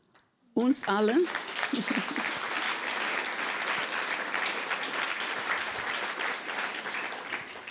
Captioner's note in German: Applaus